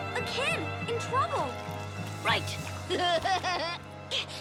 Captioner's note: laughs